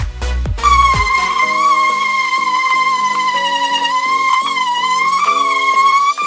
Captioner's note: upbeat music; loud squealing